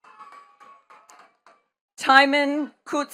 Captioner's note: attendees clapping